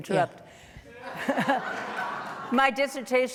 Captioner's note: laughing